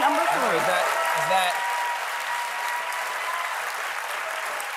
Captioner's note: applause